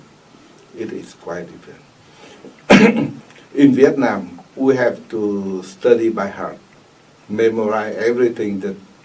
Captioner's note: clears throat